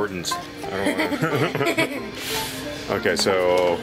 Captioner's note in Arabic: يضحك